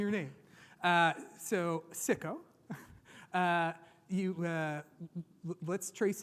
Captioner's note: chuckles